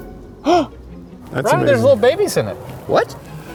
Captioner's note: gasp